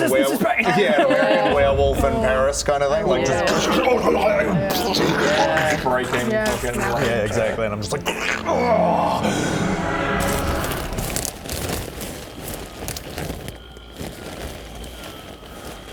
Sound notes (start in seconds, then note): 4.7 explodes; 8.4 growl; 11.4 plasticky stomps